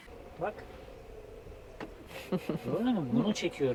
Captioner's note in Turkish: kahkaha